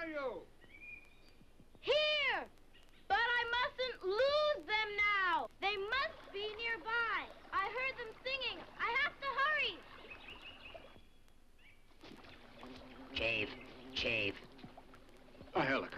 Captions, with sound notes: - Here, but I mustn't lose them now! They must be nearby! I heard them singing! I have to hurry! (birds chirping) (bee buzzes) - Chief, chief. - A helicopter, did you find him?